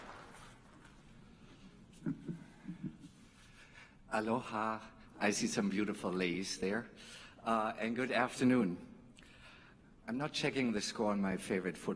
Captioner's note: applause